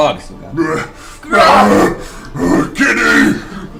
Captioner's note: groans